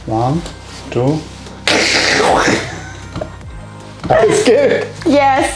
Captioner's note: laughing